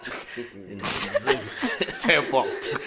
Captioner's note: everybody laughs